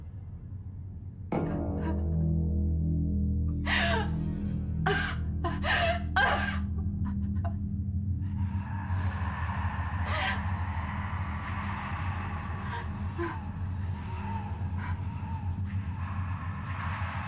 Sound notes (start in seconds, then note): 1.2 suspenseful music; 4.8 sobbing; 10.4 suspenseful music